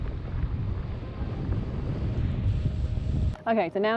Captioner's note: wind bellowing